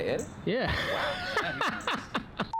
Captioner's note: laughs